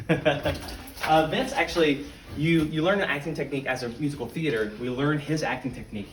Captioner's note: laugh